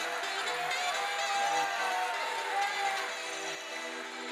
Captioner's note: audience cheering